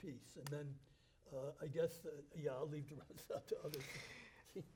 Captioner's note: chuckles